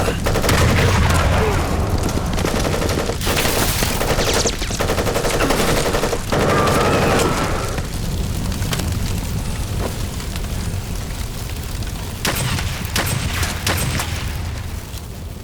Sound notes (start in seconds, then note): 7.1 Stan shouts; 8.2 flames crackling; 12.2 gunshots blasting